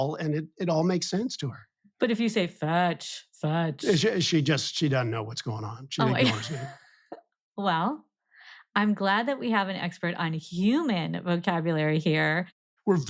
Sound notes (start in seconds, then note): 6.0 laughing